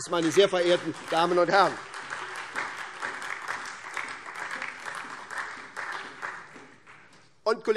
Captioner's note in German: Beifall SPD und DIE LINKE